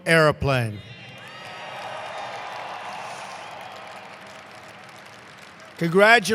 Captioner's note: applause